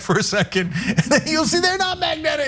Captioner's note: laugh